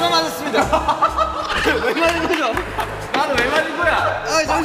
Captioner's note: kekekekekekeke